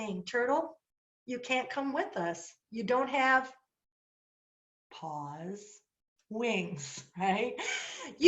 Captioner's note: laughter